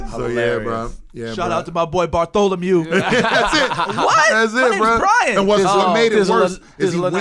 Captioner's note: laughter